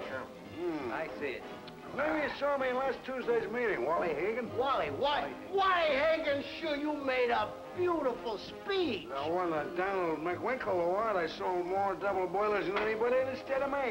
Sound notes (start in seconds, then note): 9.1 man slurring